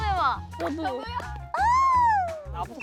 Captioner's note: heart beating